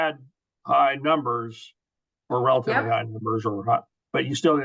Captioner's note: mutters